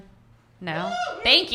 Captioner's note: audience member cheering